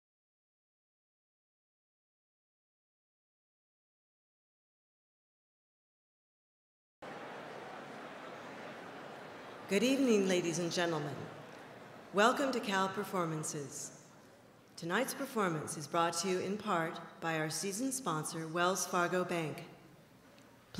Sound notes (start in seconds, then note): 7.0 audience chatters